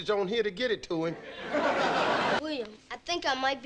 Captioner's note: audience laughing